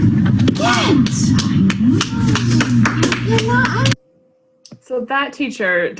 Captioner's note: pupils clapping